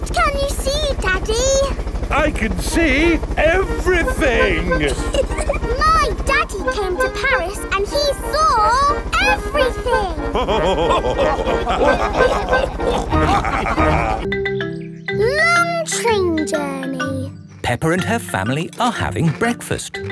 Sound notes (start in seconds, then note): 5.3 chuckles; 10.2 all laughing